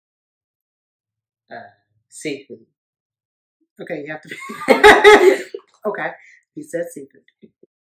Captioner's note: giggles